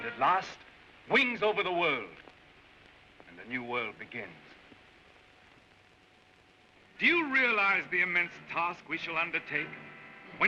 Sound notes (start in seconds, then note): none